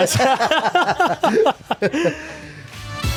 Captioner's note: group laughing; upbeat music